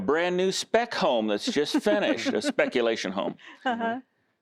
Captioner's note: laughter